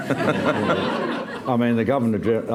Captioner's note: laughter